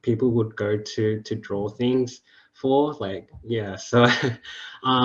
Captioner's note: chuckles